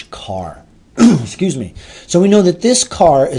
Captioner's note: throat clearing